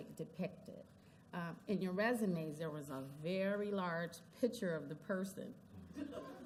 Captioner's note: laughter